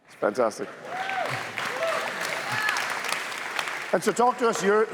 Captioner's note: cheers, applause